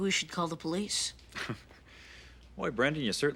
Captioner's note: chuckles